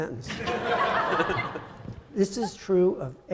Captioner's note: audience laughing